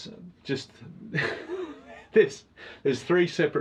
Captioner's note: laughs